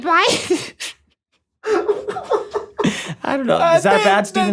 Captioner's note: laughs